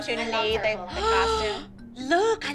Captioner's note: gasp